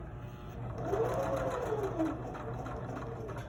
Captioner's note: sewing machine hums